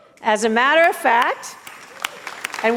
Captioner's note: applause and cheers